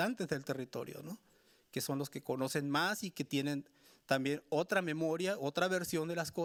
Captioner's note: speaking Spanish continues